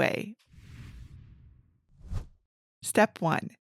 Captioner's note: image whooshes